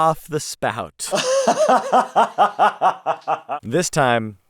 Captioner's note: laughing